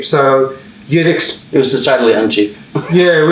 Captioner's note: laughs